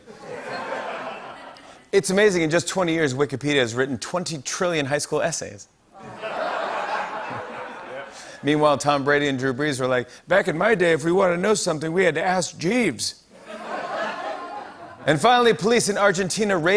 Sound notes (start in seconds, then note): 0.0 laughter; 6.0 laughter; 13.4 laughter